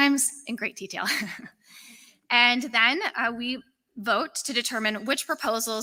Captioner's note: laughter